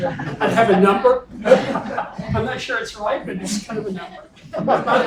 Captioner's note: laugh